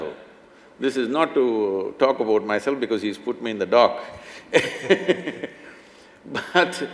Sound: both laugh

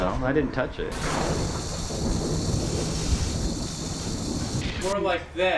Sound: thunder rumbling and hose water spraying

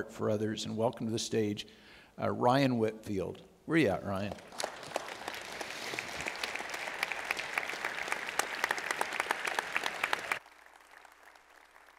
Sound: audience Cheers

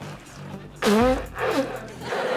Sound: blowing her nose

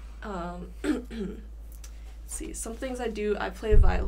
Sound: clears throat

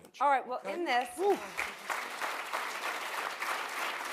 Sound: applause

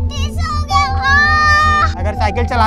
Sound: screaming in pain

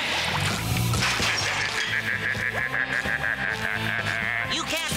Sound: cackling

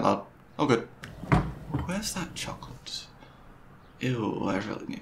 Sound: fridge opens

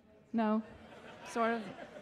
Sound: audience laughing

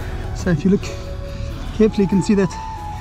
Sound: breathing heavily

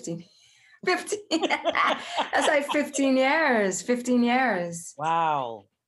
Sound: both laugh

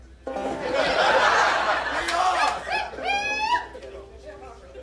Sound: laughter - Whoops

